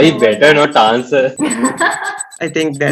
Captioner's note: laughs